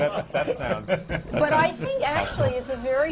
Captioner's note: laughter